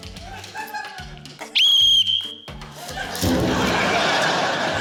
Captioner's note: whistle trills; laughter